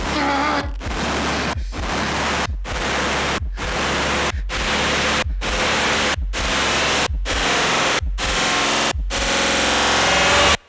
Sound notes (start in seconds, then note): 0.0 Kiefer grunting; 8.7 music intensifies